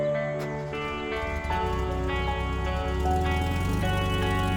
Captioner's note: engine rumbling